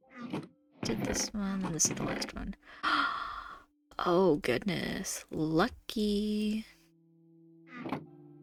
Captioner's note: gasp